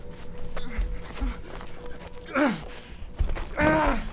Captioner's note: grunting